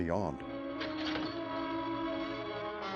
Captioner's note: glass shatters